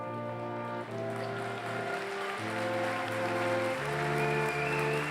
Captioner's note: applause